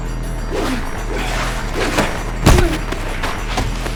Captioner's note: intense music; air whooshing